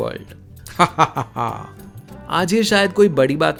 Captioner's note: evil laugh